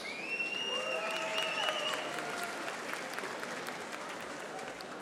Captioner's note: audience applauding